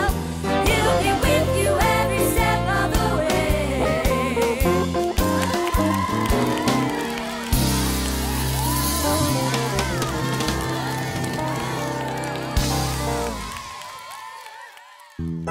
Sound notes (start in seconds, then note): 4.9 clapping and cheering